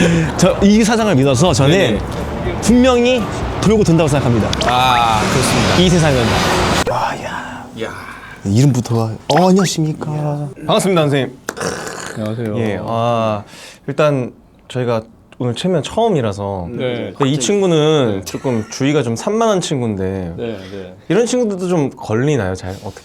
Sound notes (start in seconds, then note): 12.0 clapping